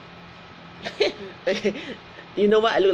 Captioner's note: laughs